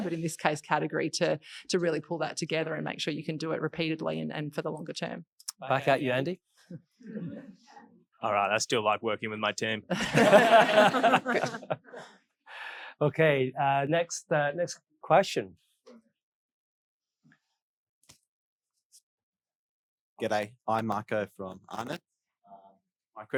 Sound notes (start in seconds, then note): 7.1 audience laughing; 8.8 all laughing